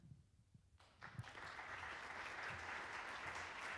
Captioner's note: applauding